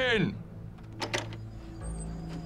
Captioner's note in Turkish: Kapı açılma sesi